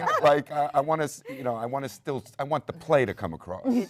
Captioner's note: panel laughs